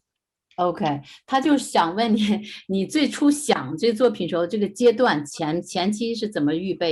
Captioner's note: speaking in foreign language